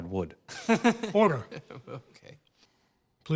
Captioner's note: laughs